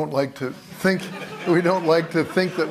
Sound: laughter

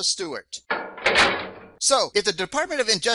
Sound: sound of prison door shutting

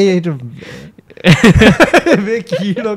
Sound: laughs

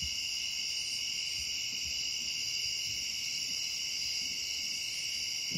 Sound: insects chirping

